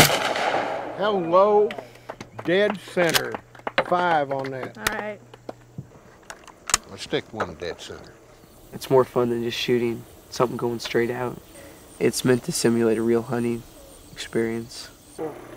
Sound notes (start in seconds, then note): 2.4 applause